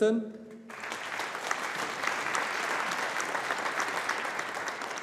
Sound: audience applauding

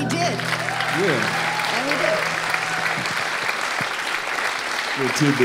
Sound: audience applauding

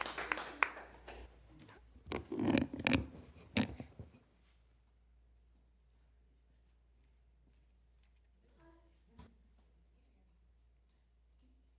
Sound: applause

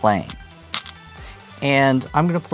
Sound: stones rattling

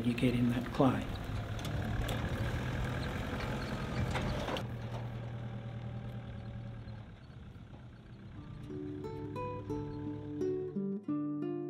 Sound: rattle of vehicle on rough ground

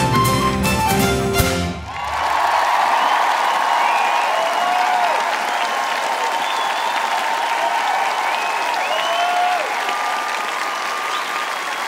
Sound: applause

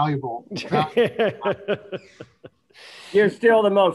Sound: laughing

